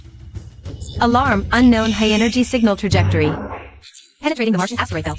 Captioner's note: alarm